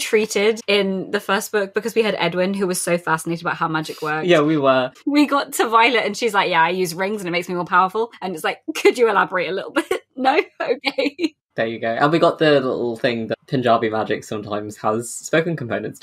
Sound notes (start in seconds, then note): 12.3 laughing